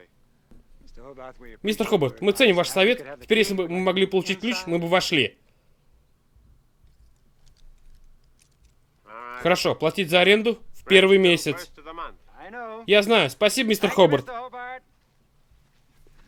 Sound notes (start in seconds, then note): 6.8 keys rattling